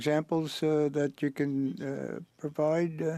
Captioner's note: speaking French